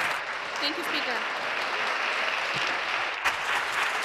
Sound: applause

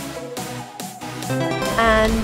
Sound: upbeat success sound

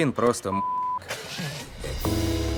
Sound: laughter

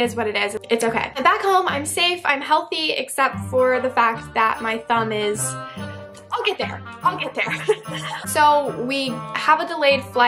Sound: laughs

